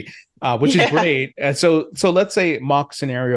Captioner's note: laughs